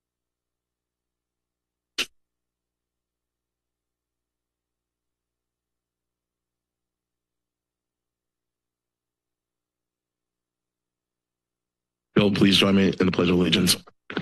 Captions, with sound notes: [Static] Will you please join me in the Pledge of Allegiance.